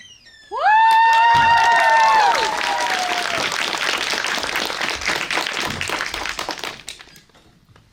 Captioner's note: applause